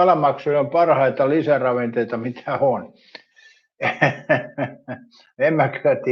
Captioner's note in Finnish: naurua